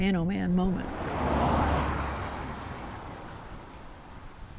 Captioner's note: vehicle passes; insects chirping